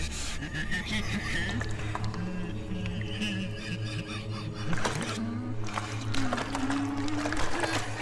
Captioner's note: ghost noises and laughter; water swishing